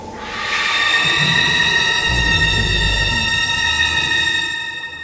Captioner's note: horrible, high-pitched scream in the distance